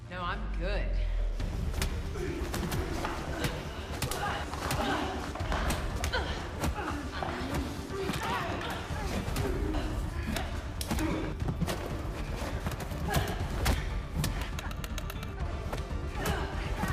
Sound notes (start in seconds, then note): 1.8 blows thudding; 1.8 people groaning; 11.1 blows thudding; 11.1 people groaning